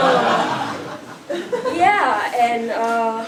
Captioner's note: laugh